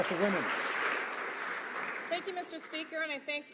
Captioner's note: some Applause